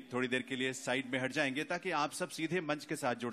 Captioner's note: speaks in Punjabi – not transcribed